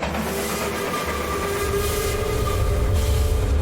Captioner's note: train whistle blowing